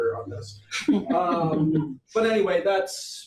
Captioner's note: audience chuckles